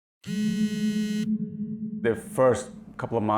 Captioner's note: buzzing